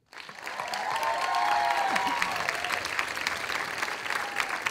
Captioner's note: audience applauding